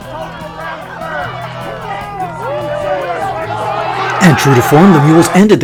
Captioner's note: crowd cheering